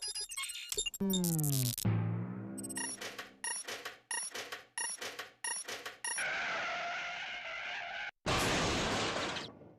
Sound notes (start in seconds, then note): 6.2 screeching; 8.3 crashing